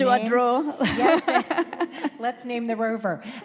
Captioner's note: laughter